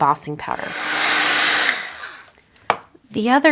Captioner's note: heat tool whirring